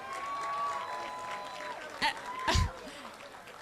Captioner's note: laughter